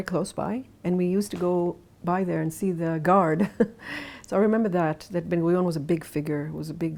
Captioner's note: laughs